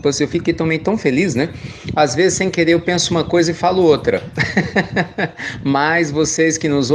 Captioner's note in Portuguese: Risos